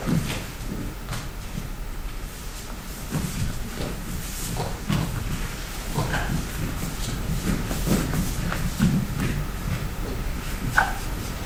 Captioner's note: dancers shuffling